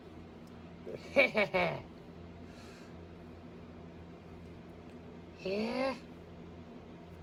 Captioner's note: giggles and laughs